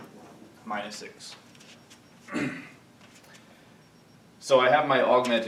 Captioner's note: clears throat